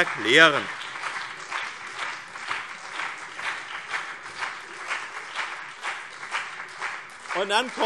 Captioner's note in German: Beifall BÜNDNIS 90/DIE GRÜNEN und CDU - Zurufe SPD